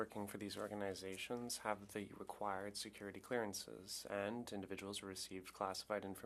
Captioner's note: speaking French